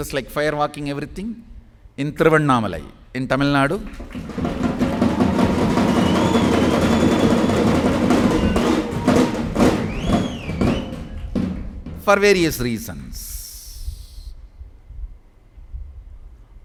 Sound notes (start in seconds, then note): 4.0 celebration happening